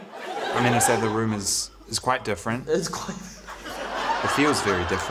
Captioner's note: laughs